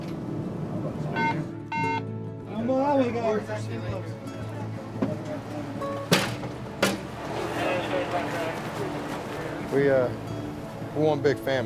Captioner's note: muffled chatter; beeping